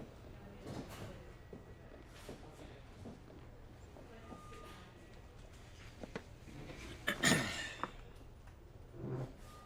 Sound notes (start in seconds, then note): 7.0 clears his throat